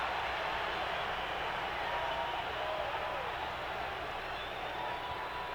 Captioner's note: audience cheering